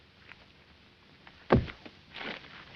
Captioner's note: thump